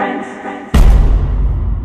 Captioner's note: loud thud